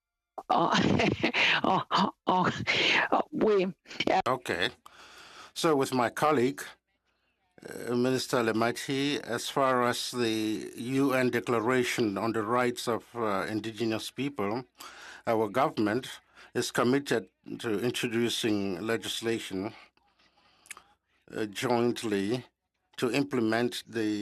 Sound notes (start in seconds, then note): 8.5 speaking in French